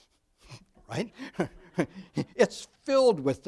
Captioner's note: audience laughs